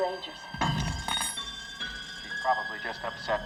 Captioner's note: spoon clattering